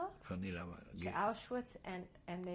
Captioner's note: speaking yiddish